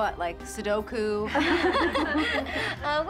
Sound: laughter

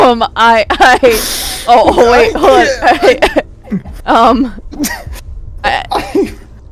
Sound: sobs

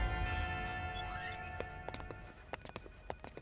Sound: door opens

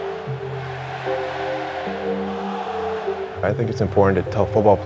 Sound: crowd chanting; somber music

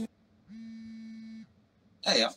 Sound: phone vibrating

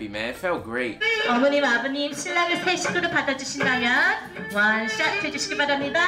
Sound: speaking in foreign language

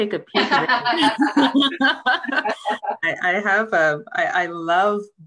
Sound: laughter

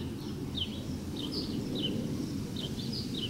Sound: airplane noise overhead

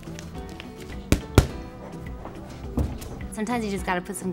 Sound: gloves thumping

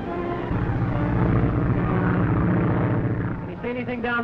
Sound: engines droning

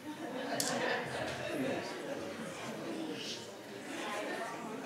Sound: audience laughs

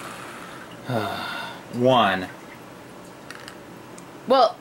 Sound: sighs

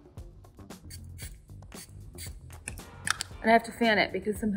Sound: mist spraying

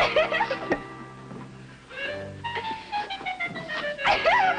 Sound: laughing

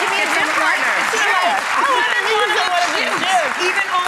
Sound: audience clapping; audience clapping drowns out speakers

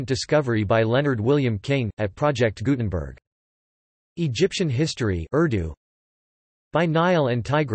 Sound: urdu

